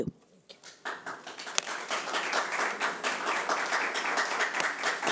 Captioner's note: audience applauds